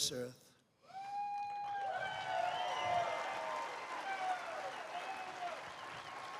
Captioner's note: applause